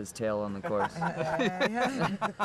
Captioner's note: laughing